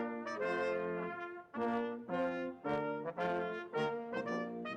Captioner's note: none